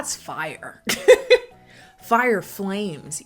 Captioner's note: laughs